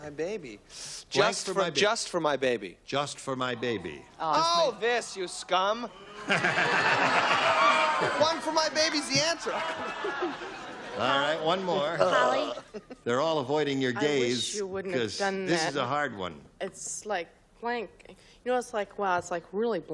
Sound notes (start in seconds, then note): 6.1 laughter